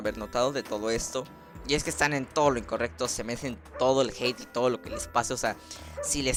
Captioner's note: dog barking mp.3